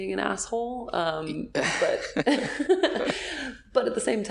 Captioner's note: laughing